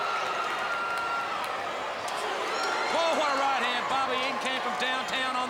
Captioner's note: crowd chatter